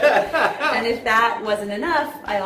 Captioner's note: laughs